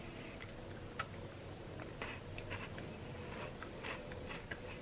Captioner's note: crunching